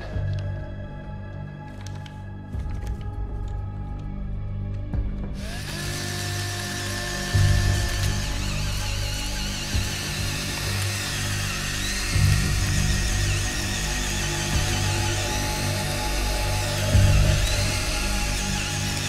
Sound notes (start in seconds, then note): 4.4 drill whirring